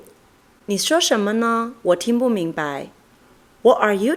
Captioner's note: is speaking in Mandarin Chinese; is speaking in English